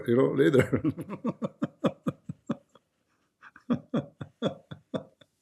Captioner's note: Ketawa